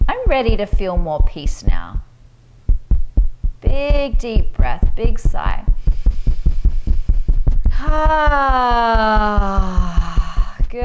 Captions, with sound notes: I'm ready to feel more peace now. Big, deep breath, big sigh. (inhales deeply) (exhales deeply)